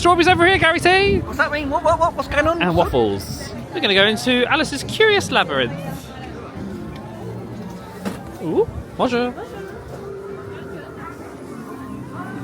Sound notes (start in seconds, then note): 7.9 gate clanks